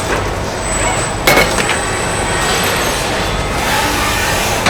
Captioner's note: screaming